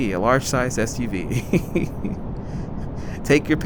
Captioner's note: laughs